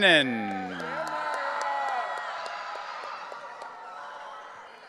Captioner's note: audience cheering